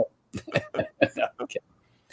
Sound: laughing

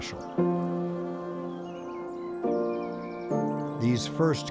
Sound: bees buzzing sounds

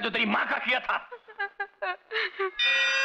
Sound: sobbing

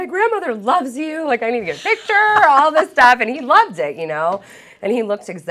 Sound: laughter

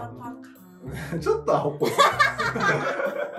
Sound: laughs

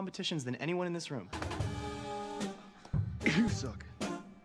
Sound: coughs

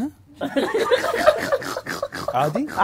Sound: all laughing

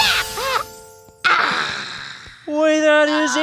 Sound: sighs

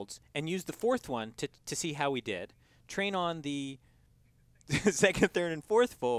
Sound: laugh

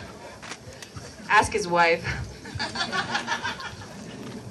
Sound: scattered laughter

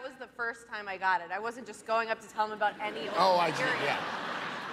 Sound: laughter

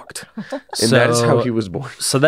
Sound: laughs

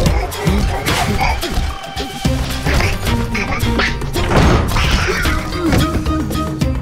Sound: Goosar quacking

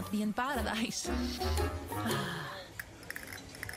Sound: sighs

